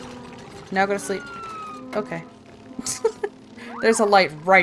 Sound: laughs

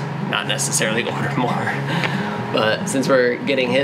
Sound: laughs

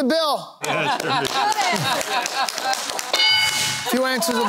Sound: laughter

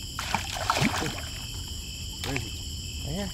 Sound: water splashing

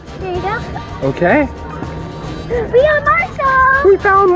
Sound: gasps

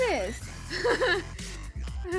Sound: laughing

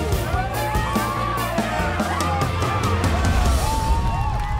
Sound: cheers, music in background

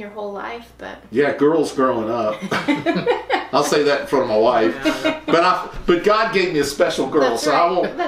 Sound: laughter

